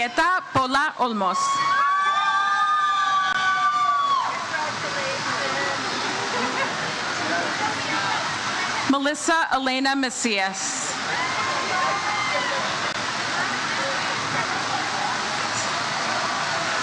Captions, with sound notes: Julietta Pola Olmos. (crowd cheers) - Congratulations. - Melissa Elena Messias. (audience member cheers)